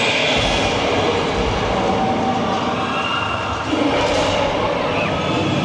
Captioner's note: dinosaur roaring